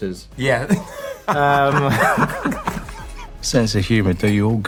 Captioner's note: laughter